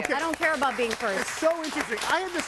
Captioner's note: people applauding